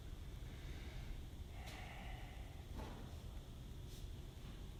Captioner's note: sighs heavily